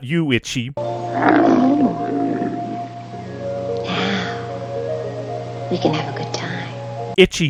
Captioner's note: itchy moans